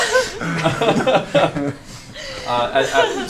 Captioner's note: laughs